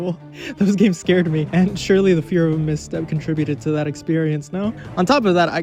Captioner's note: laughs